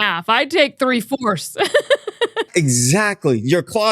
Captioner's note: laughs